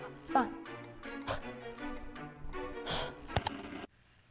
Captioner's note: spooky laughter in the background; dramatic sighing; static; ka-chunk